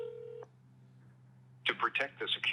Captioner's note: phone beeping